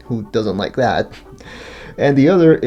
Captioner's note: laughs